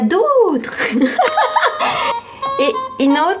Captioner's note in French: rire